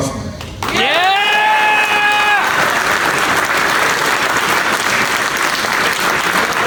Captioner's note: audience applauds